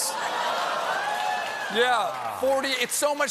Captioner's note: laughter